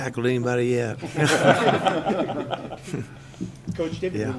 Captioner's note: laughter